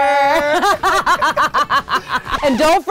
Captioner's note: both laughing